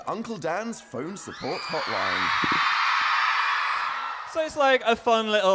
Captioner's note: audience cheering loudly